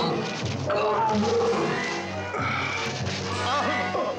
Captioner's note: groaning